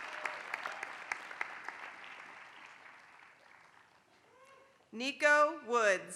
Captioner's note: applause